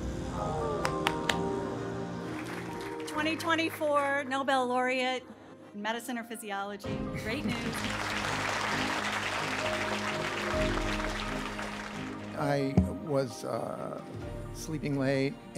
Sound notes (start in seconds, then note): 2.1 applause; 7.2 applause